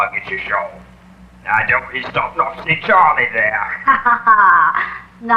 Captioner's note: also laughing; he laughs